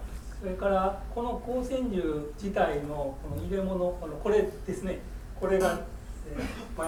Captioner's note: speaking in foreign language